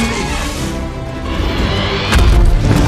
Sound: screeches

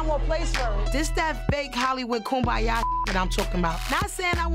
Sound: beep

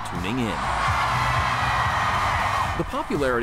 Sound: loud cheering

